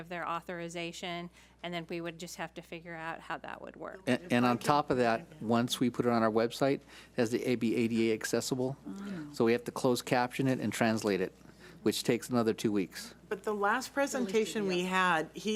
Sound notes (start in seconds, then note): 4.2 speaks off mic